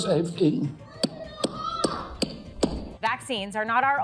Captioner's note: gavel banging